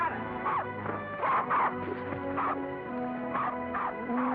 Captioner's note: suspenseful music; dog barks; cattle moo